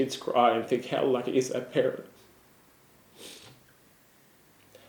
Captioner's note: sniffs